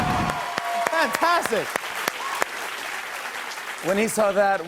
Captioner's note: cheers and applause; cheers and applause continue